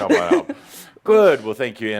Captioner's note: she giggles